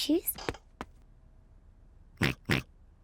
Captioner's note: oinks